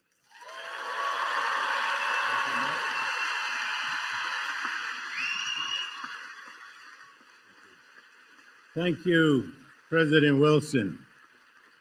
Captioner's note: applause